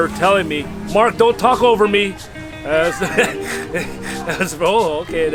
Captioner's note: laughs